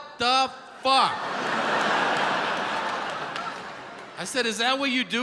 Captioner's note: audience laughs